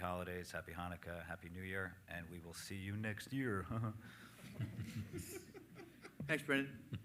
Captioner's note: chuckles